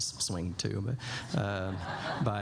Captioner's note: laughter